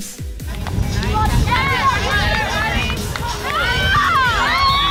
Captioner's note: people cheering and yelling